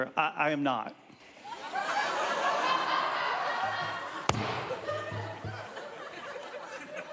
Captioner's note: audience laughing